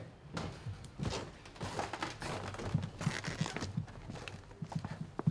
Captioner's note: Pasos resonando y el suelo crujiendo